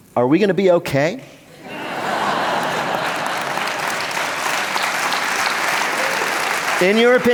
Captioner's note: laughter